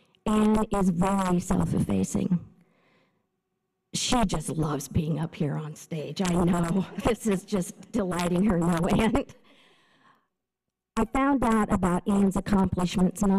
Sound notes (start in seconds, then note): 6.4 laughter; 9.3 chuckles